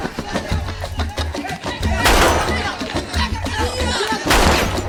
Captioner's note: gunshots